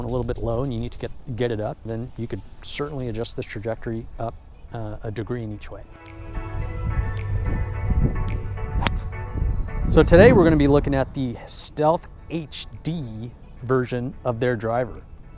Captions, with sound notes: a little bit low and you need to get it up, then you could certainly adjust this trajectory up a degree in each way. (upbeat music) (golf club smacking) So today, we're gonna be looking at the Stealth HD version of their driver.